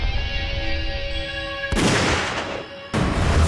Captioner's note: gunshot